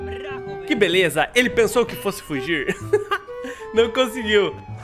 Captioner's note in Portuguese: risos